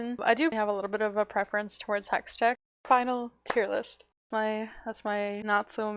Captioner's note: clap